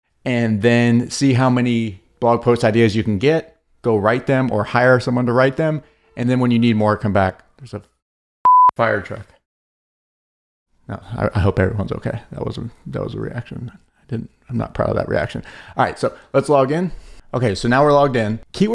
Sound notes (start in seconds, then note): 8.4 beep